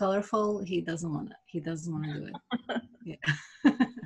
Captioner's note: laughs